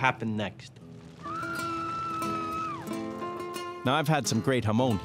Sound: screaming

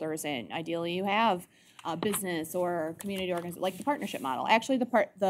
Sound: none

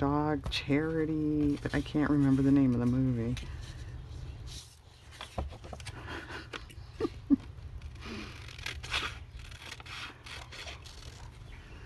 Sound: laughs

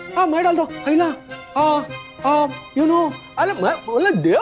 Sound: stammers

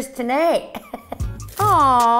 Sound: chuckles

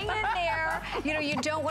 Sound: laughter

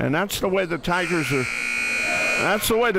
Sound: buzzer sounds

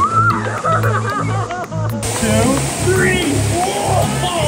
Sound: laughter

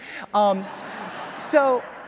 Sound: audience laughs

